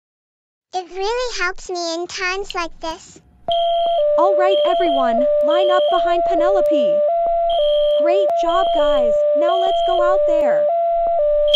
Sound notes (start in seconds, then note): 3.5 fire alarm